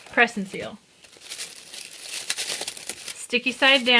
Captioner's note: plastic shuffling